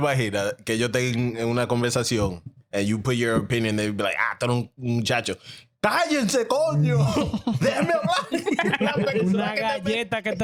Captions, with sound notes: (Speaking In Foreign Language) And you put your opinion, they be like, (Speaking In Foreign Language) (Laughing)